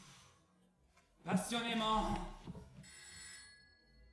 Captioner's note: the phone rings